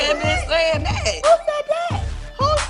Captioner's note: soundbite of tv show, "real housewives of atlanta"